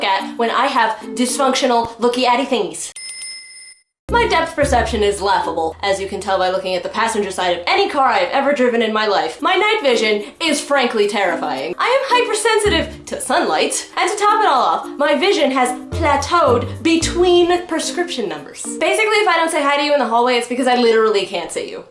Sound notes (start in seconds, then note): 4.1 Majora's Mask Tatl alert sound effect